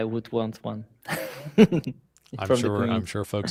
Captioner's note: laughs